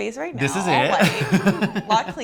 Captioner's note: laughs